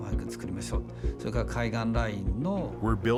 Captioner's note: speaking Japanese